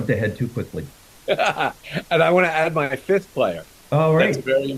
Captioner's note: chuckles